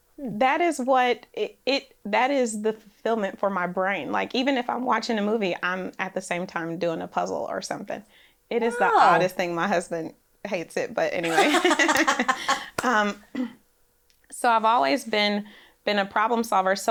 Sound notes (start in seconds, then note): 11.2 laughs